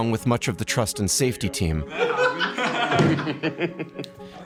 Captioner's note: laughing